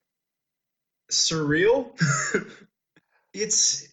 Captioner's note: laughs